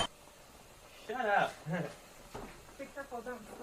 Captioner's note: laughter